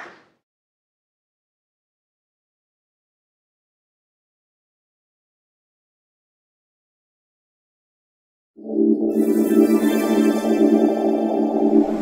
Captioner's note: audience applause